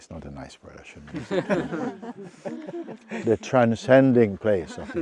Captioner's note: laughter